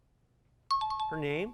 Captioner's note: timer